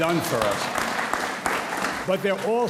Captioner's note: audience applauds